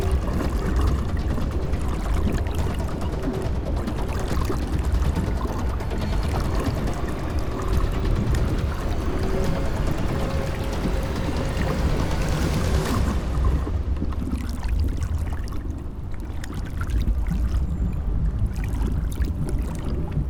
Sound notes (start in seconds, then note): 0.2 water continues lightly lapping; 10.1 suspenseful dramatic music continues; 12.1 bubbles gurgling; 13.6 water lightly lapping